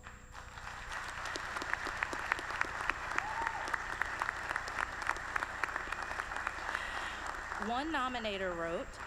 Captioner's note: applause